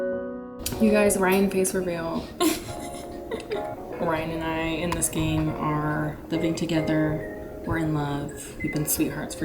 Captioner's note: laughter